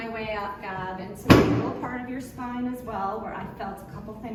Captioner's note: table thump